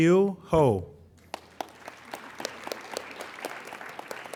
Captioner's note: applauding